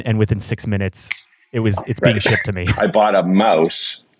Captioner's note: fingers snapping